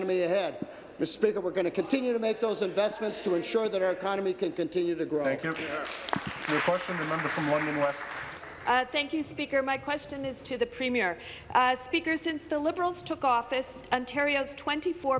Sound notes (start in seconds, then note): 9.9 applause